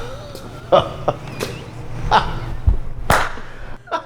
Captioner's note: laughing